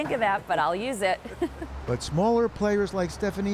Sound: laughter

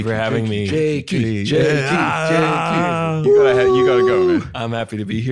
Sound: all chanting and cheering

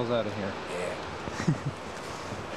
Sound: chuckles

